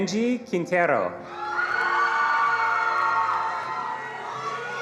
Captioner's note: attendees cheering and applauding